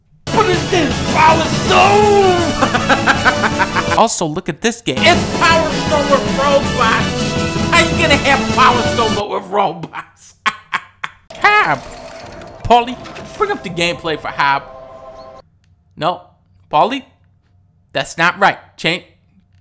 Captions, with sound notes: BUT IT'S JUST POWER STONE [laughter] Also look at this game, IT'S POWER STONE WITH ROBOTS HOW YOU GONNA HAVE POWER STONE BUT WITH ROBOTS? [laughter] Hob! Paulie, bring up the gameplay for Hob. No, Paulie? That's not right. Cha--